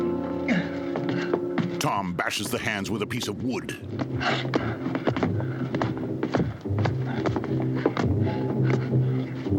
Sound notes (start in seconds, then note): 1.1 heavy thuds